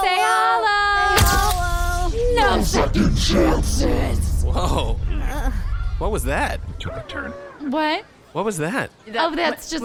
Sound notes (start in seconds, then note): 2.9 voice distorted and evil